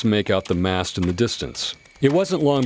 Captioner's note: horses pulling wagon approach